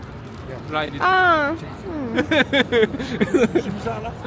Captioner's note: laughter